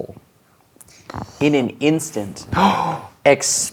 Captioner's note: gasps